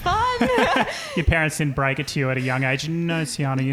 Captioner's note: laughing